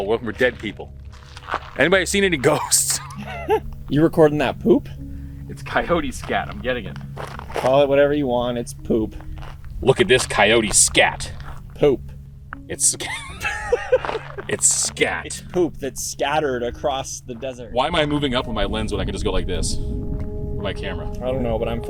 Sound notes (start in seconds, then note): 2.5 both laughing; 12.9 both laughing